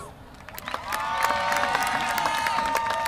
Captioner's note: applause